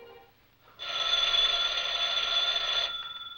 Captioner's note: phone rings